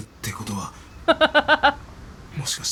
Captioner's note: chuckles